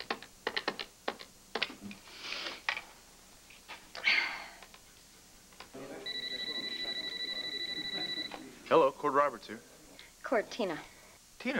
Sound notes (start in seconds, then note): 3.0 telephone rings